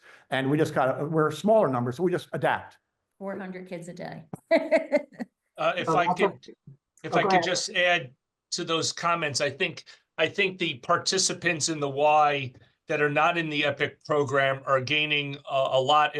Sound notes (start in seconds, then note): 4.5 laughter